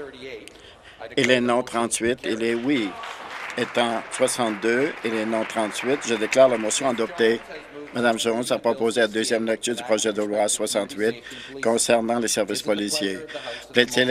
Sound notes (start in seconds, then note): 5.7 applause